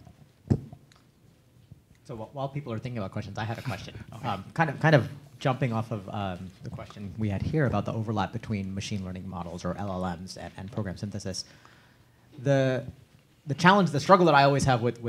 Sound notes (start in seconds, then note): none